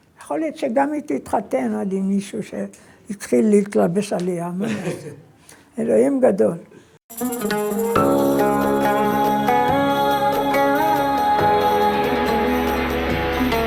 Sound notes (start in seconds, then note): 4.6 laughs